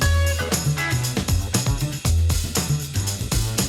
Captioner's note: whispers